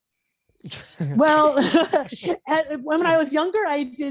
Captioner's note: chuckling